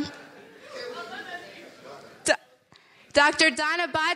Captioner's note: people chattering